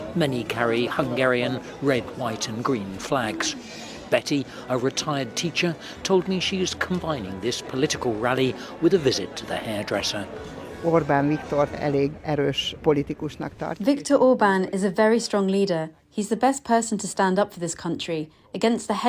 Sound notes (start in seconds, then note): none